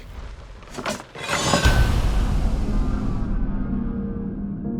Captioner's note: ax clangs